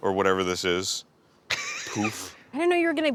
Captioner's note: wheeze laughs